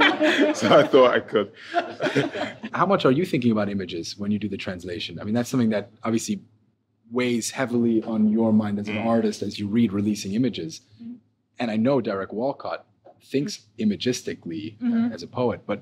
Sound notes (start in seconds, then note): 0.0 participants laughing